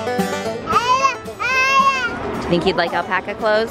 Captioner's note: babbling